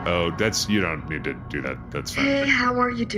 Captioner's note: refreshing startup chime; in a rather sultry voice